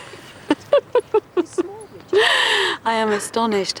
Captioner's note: they laugh